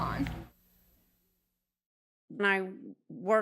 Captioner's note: static fades